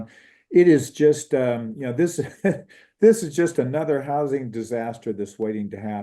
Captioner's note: laugh